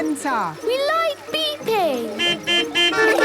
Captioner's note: horns beeping